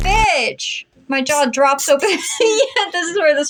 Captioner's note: laugh